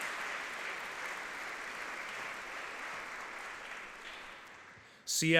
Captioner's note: audience clapping